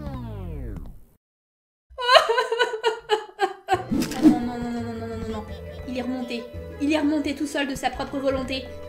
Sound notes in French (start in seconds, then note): 2.0 Pleurs